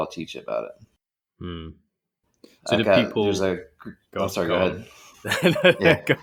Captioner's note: laughing